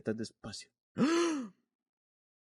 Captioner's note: gasp